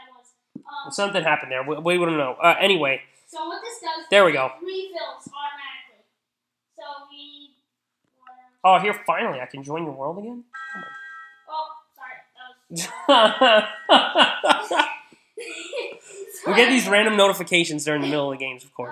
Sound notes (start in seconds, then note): 12.7 laughing